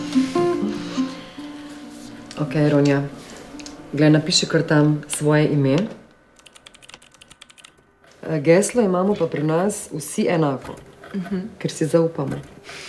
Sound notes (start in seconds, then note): 6.4 typing